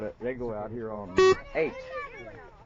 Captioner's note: beeping